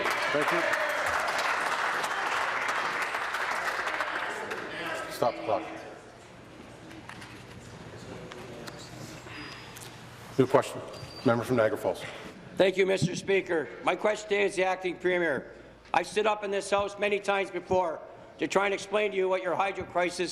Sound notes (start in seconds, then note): 4.0 applause